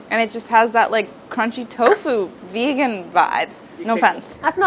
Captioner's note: none